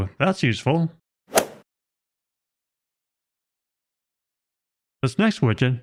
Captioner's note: golf ball hit sound effect